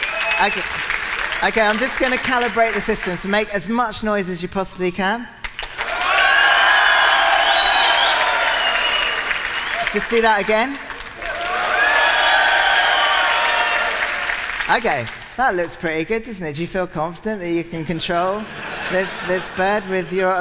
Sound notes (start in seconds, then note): 7.6 whistling, cheering and applause applause